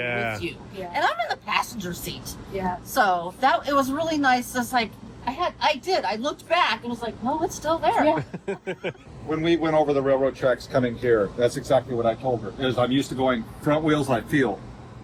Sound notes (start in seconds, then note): 8.0 laughs